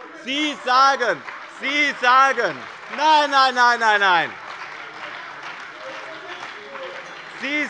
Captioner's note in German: Beifall bei dem BÜNDNIS 90/DIE GRÜNEN und der CDU - Zurufe von der SPD